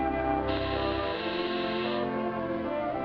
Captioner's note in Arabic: جرس